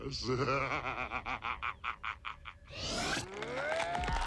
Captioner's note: evil laughter